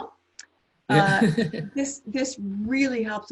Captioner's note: laughs